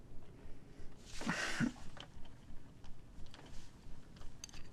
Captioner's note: grunting